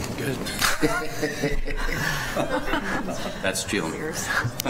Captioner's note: laughter